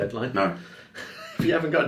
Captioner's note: laughs